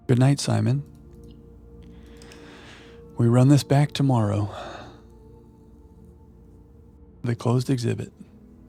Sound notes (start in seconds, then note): 1.1 sighs